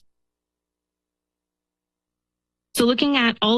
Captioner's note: pause